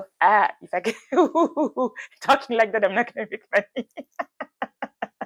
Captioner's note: laughs